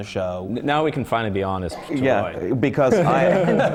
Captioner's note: laughter